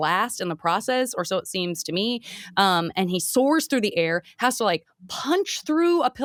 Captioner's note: none